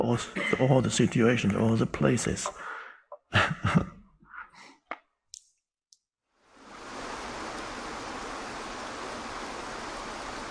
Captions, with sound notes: All the situations, all the places. (Eckhart laughs) (water cascading)